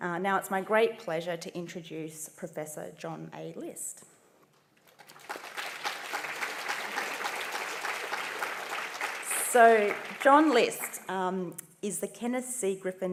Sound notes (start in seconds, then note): 4.8 applause